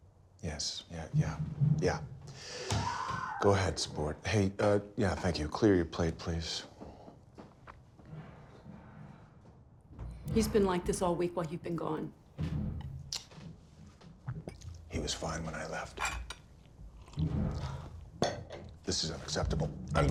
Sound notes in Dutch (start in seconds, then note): 2.7 Tim schreeuwt